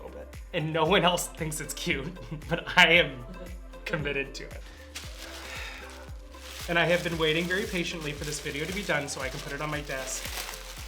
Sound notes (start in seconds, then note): 5.4 exhales heavily